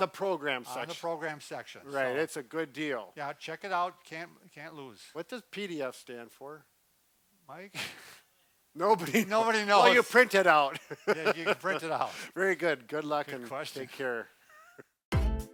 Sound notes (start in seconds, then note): 8.1 laughs; 10.6 laughs